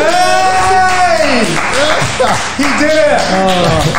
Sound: applause and cheering

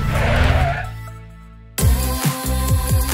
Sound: car screeches; upbeat pop music

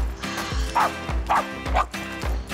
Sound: barking

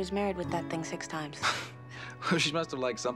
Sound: laughs

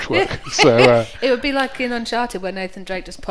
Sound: laughs

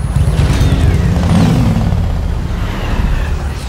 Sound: heavy traffic sounds. Engine stops

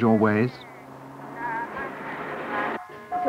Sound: car traffic; music and singing

